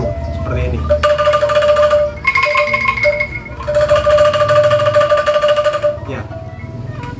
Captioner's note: trulungng trulungng, triling triling